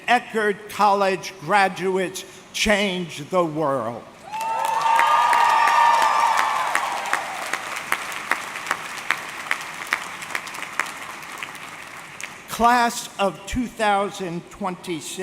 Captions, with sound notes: and Eckerd college graduates change the world. (audience cheering) (audience clapping) Class of 2026,